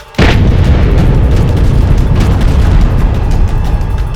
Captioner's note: explosions